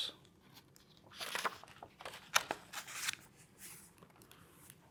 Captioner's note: pages rustling